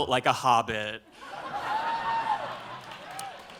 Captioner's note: laughter